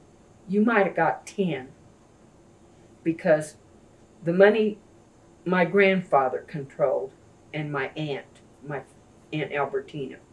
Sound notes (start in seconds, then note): none